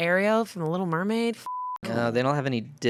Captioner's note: beep